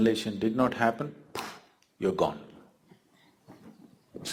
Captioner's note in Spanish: sonido con los dedos